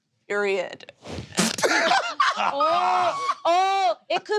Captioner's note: laughing